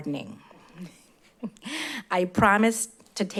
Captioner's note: chuckles